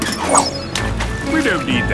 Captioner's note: splashes